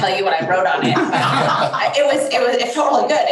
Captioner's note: crowd laughs